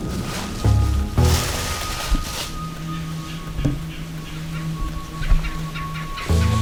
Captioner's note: sound of walking